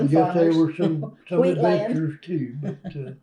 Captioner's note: laughs